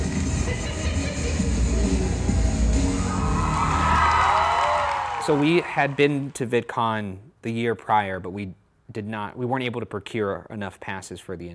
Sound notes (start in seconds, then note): 0.0 upbeat music; 1.8 audience cheering